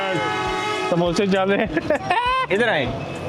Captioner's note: with Laugh